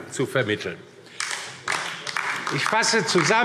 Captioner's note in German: Beifall DIE LINKE